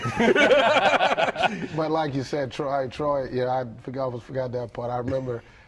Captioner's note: laughter